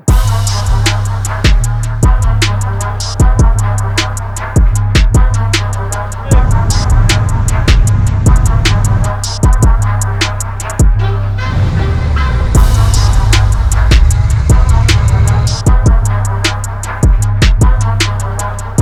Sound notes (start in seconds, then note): 0.1 upbeat hiphop music; 11.2 car engine roaring; 15.5 upbeat hip hop music